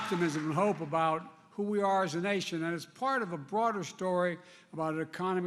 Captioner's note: applause